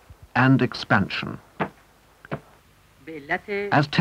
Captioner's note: stamp thudding